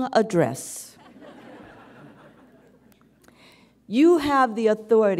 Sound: audience chuckles

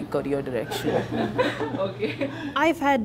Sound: laughing

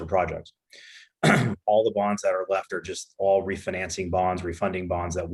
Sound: clears throat

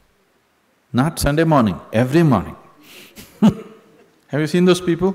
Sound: laughs

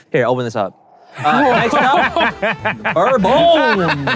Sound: laughing

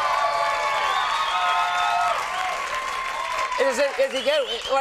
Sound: audience cheering

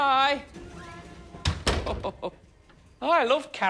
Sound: mr perkins chuckles

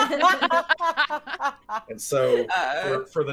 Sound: everyone laughing

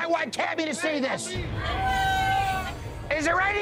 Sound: shouting

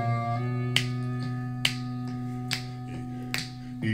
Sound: snap, snap, snap, snap

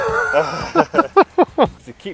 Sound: chuckles

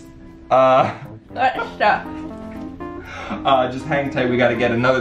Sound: mumbling

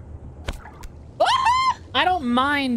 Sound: cheerful Scream

